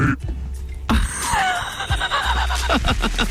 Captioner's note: laughing